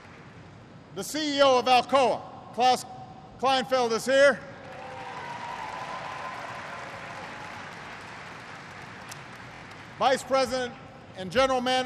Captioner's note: applause; applause